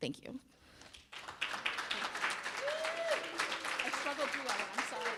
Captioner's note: audience cheering and applauding